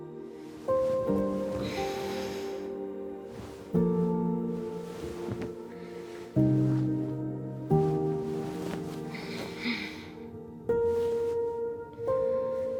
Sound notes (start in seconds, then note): 1.8 Summer sighs